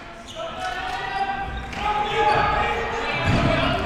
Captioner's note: yelling